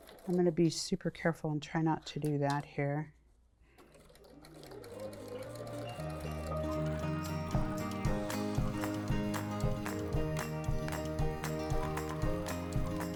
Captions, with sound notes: I'm gonna be super careful and try not to do that here. [Sewing Machine] [Upbeat Guitar Music]